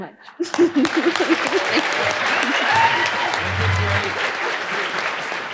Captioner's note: audience applauding